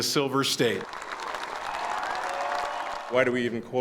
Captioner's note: audience cheering